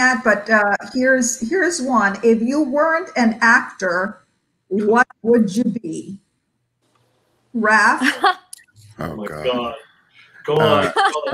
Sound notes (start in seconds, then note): 8.0 laughs